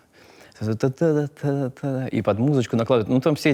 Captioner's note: mimics manner of speech